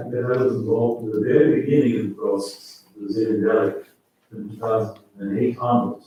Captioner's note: faintly speaking